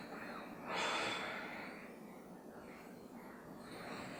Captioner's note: sighing